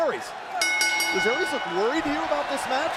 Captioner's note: bell ringing